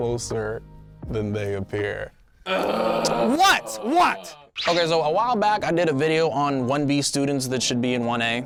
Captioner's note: producer groans